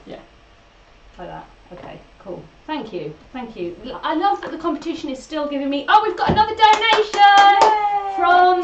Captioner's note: cheers